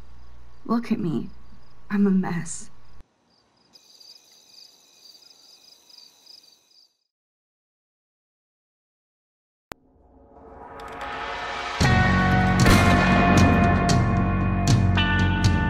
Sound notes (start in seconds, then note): 3.0 crickets Chirping; 10.0 intro Plays